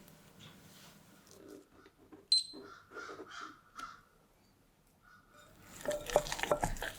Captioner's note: crows~~~>_<